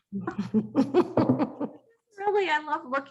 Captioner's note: laughter